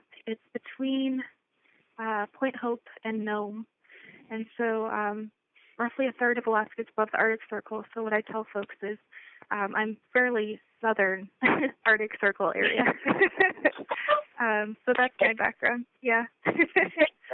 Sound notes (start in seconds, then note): 12.6 laughter